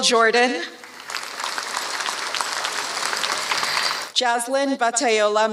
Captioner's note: applause